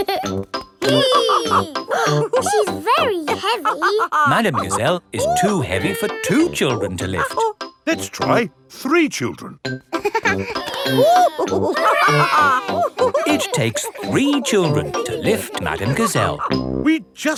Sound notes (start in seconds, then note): 0.8 both straining; 0.8 giggles; 0.9 madam gazelle laughing; 9.9 madam gazelle laughing; 9.9 giggles; 10.0 children straining